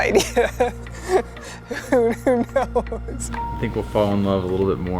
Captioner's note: laughing